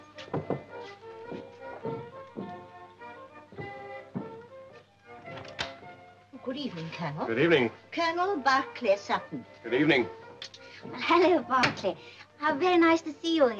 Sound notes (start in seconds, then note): none